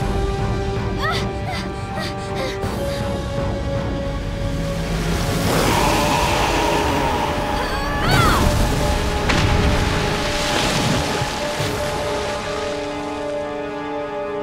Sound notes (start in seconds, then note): 1.4 panting; 5.5 screeching; 7.1 grunting